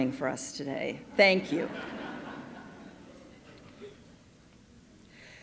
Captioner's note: audience laughing